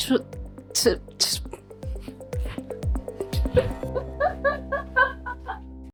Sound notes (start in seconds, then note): 3.5 laughing